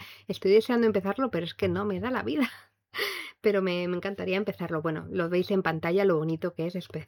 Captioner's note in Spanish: risas